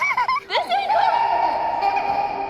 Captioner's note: giggling; orchestral music